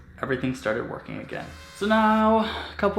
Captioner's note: buzzing